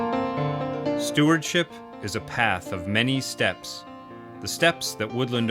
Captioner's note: voiceover